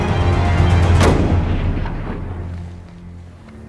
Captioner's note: gunshot